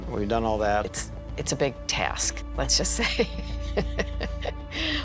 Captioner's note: chuckles